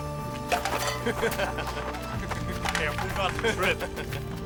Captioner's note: laughing